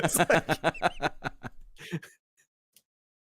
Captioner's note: laughter